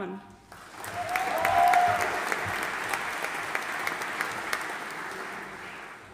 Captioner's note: audience cheering and applauding